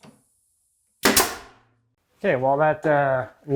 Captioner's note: nailgun firing